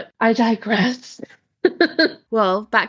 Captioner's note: laughs